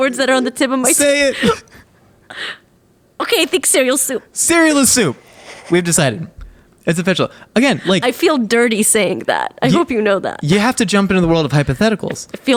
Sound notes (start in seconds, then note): 1.0 both laughing